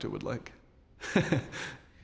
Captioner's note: chuckles